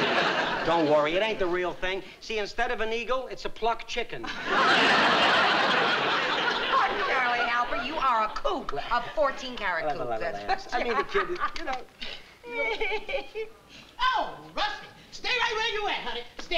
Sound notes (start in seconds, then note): 12.6 laughs